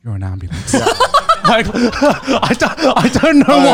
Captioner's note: laughing